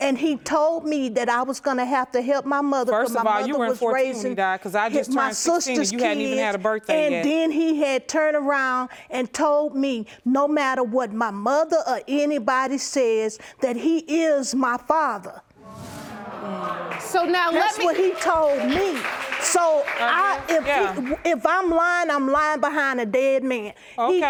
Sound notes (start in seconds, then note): 15.7 audience exclaiming; 19.6 stammering